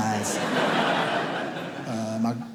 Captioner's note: audience laughs